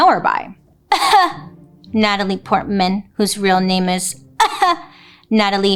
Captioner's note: fakes cough; fakes cough